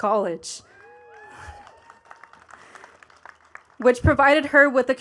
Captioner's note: attendees cheering and clapping